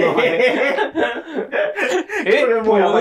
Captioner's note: laughing